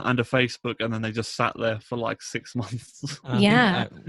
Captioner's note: laughs